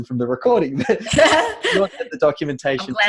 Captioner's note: laughing